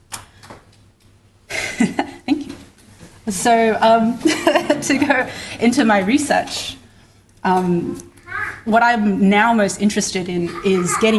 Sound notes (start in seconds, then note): 1.5 laughs; 4.2 laughter